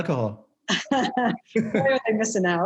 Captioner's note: laughing